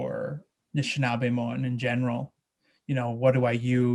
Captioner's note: speaking in a foreign language